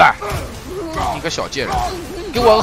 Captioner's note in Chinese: 大笑